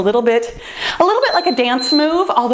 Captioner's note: timer beeps